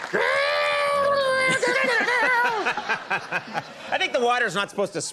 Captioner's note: imitating guitar sounds